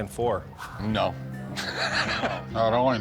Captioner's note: laughs